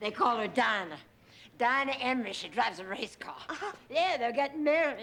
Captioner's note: chuckles